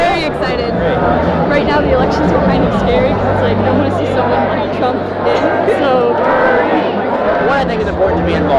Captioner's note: laughter